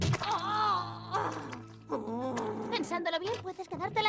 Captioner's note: growling